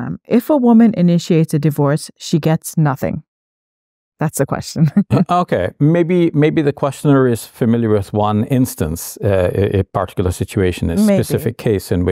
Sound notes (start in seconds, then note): 4.9 laughing